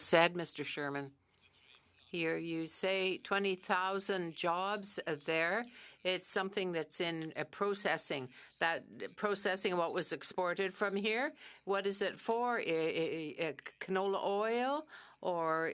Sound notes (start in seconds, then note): 2.2 speaking French